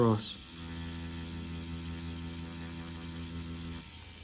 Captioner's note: machine whirring